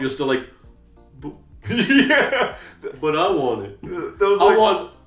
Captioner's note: laughs